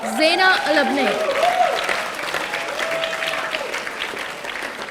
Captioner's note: audience applauding